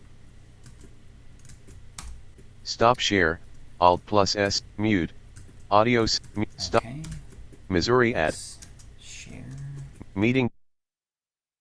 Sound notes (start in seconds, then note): 6.4 typing